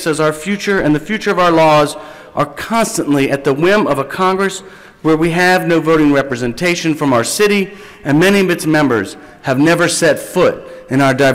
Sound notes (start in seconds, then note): none